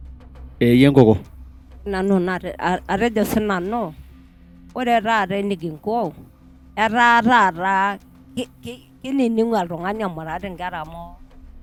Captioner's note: speaking in Maasai